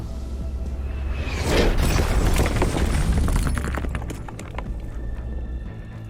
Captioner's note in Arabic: دوي تحطم مدوٍ